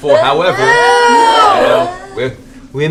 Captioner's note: distressed noises